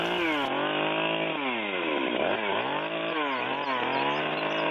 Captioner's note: cutting noises